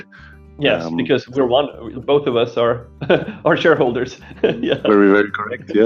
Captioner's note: laughing